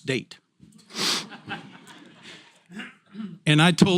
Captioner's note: laugh